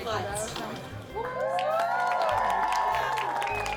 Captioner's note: cheering